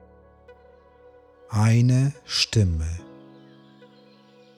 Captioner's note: german